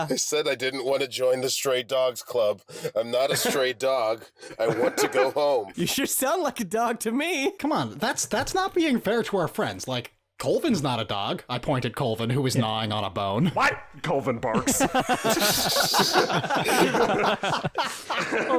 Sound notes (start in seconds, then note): 14.1 Colvin barks; 14.6 3W and Spare laugh